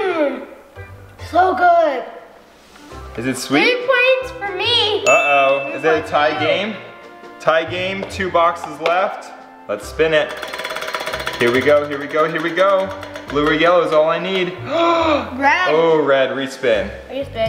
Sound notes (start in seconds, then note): 14.6 gasps